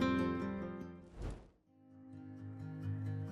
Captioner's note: gentle music; air whooshes; gentle music